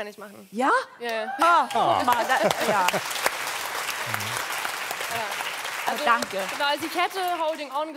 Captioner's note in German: Applaus